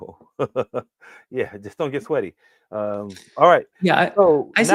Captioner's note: laughs